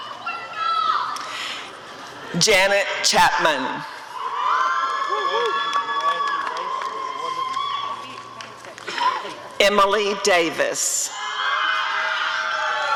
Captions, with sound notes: Janet Chapman [applause and cheering] Emylee Davis [applause and cheering]